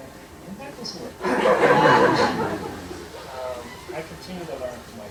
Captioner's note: laughter